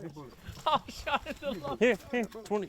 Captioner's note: laughing